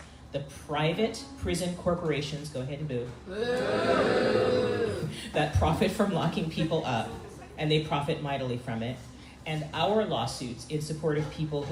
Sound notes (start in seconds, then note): 3.3 crowd booing